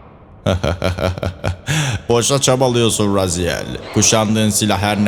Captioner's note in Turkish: kahkaha